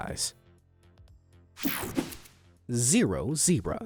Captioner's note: air whooshing